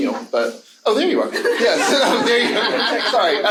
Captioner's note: audience laughing